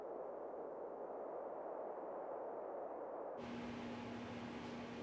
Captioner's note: wind blowing